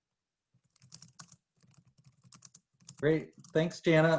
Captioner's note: keyboard clicking